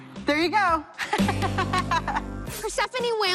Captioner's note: Persephone laughs